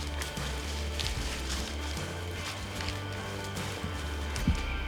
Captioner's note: brush crunching